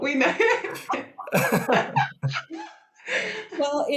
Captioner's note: all laugh